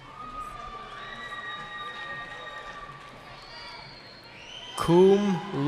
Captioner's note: cheering